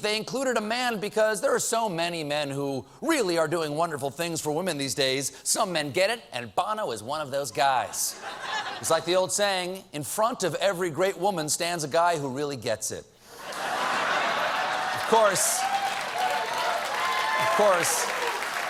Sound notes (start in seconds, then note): 13.4 laughter; 13.5 applause